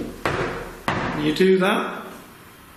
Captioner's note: thuds